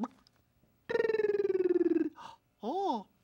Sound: clucking; fluttering tongue

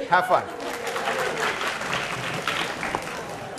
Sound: applause

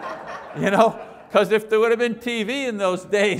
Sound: audience laughs

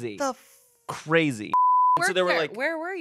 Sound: beep

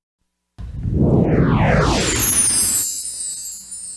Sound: whooshing and twinkling continuing

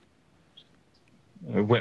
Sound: students whispering

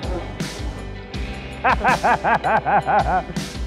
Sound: laughing with joy

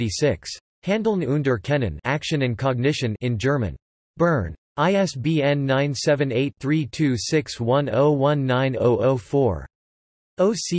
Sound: in German

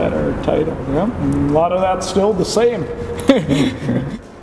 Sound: laughs

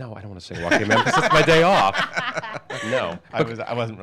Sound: everyone laughs

